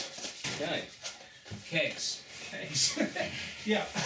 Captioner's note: laughter